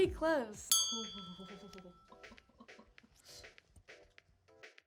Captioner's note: bell dinging